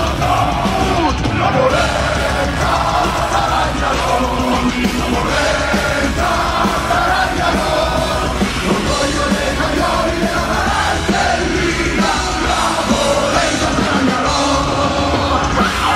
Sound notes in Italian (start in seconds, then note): none